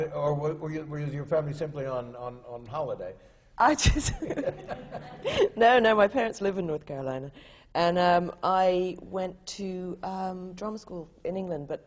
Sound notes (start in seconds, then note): 4.0 laughs